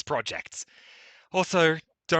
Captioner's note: breathes